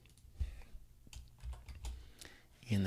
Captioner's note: typing